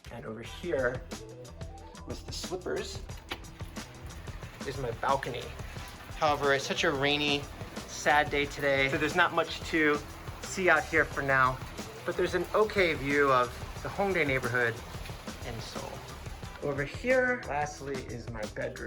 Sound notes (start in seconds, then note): 3.1 door Open; 4.0 rain